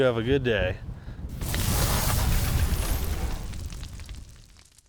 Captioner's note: sparks sizzling